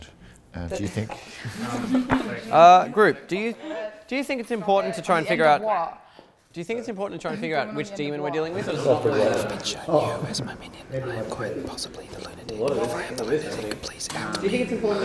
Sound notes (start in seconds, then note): 1.3 laughs; 10.1 whispering